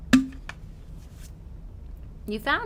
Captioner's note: water bottle opening